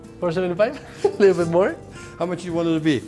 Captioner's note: laughs